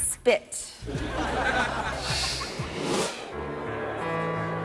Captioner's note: audience laughing; gentle music